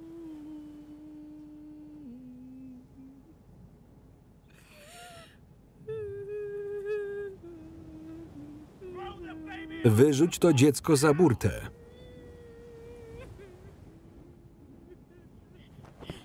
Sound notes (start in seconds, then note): 4.5 weeping while humming; 13.5 weeping